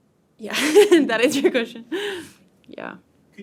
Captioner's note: laughs